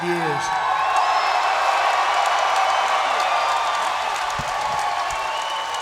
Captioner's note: crowd cheering and clapping